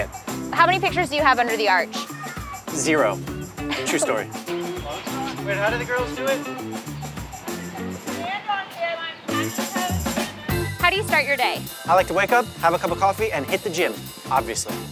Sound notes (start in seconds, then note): 3.6 woman laughs; 4.3 upbeat music